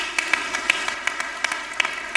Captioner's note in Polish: oklaski